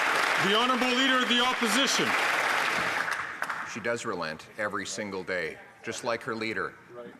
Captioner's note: some Applause